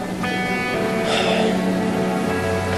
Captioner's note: sighs heavily; pensive music continues